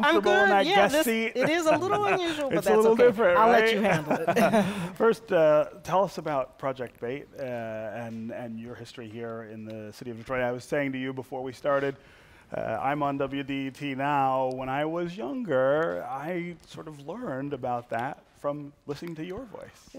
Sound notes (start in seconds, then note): 3.8 laughter